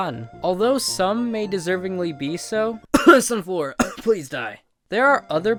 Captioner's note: cough